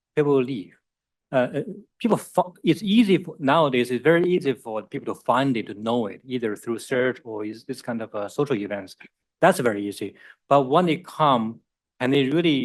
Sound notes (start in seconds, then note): none